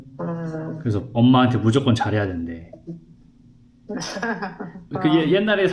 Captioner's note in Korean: 웃음